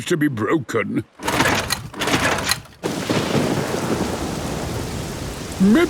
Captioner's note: engine struggling